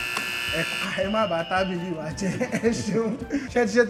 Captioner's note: laughs